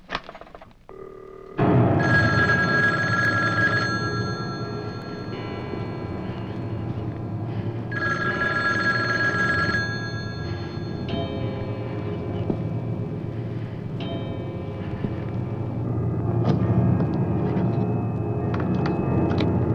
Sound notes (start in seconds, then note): 1.3 phone Ringing